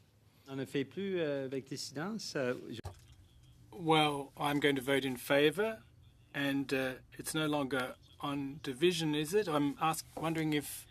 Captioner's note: speaking french